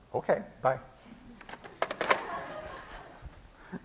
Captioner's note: class laughing